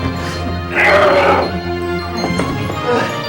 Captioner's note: growls